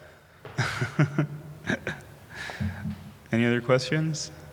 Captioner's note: laughing